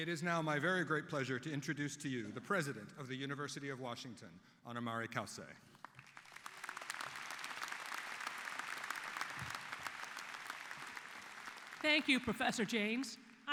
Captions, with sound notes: IT IS NOW MY GREAT PLEASURE TO INTRODUCE TO YOU THE PRESIDENT OF THE UNIVERSITY OF WASHINGTON, ANA MARI CAUCE. [APPLAUSE] >> THANK YOU, PROFESSOR JANES.